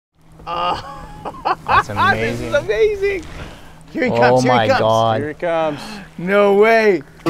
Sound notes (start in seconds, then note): 0.4 laughs with excitement